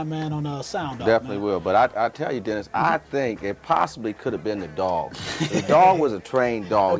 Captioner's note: laugh